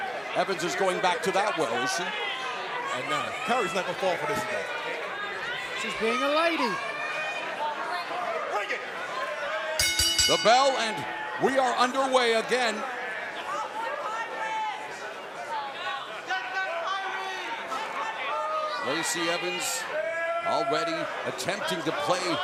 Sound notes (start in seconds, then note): 9.8 bell ringing